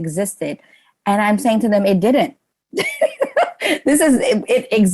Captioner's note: laughs